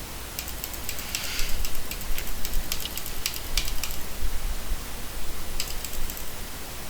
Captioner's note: loud clicking many times